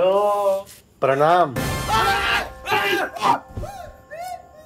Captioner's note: Screaming